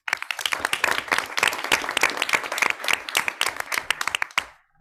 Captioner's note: audience clapping